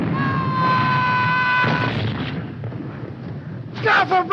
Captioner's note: man screaming